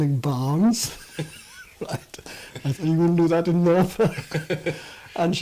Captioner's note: laughs